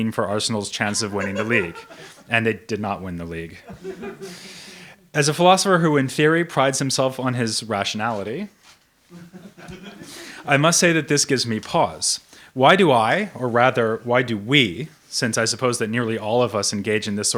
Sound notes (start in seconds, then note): 3.6 audience member laughing; 9.2 audience member laughs